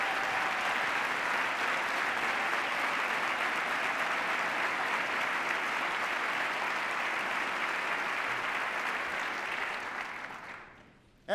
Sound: cheers, applause

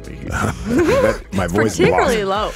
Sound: laugh

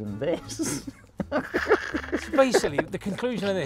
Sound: laughing

